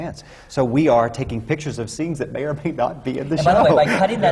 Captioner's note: laughs